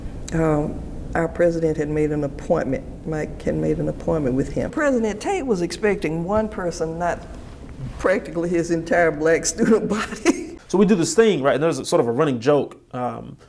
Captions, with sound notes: Our President had made an appointment, Mike had made an appointment with him. President Tate was expecting one person, not practically his entire black student body (laughing) - So we did this thing, and it was sort of a running joke